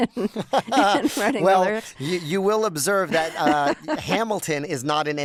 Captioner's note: laughter